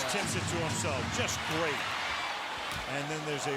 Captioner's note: crowd chanting "defense"